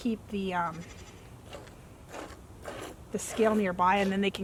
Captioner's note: milk squirting into bucket